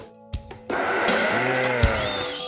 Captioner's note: blender whining